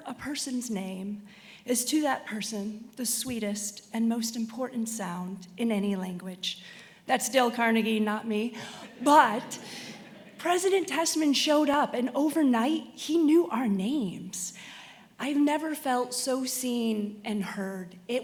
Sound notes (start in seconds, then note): 8.6 attendees laughing